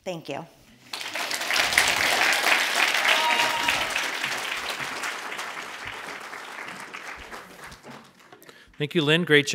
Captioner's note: audience applauds and cheers